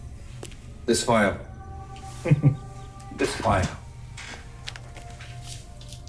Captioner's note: chuckles